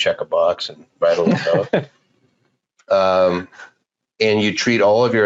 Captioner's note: laughing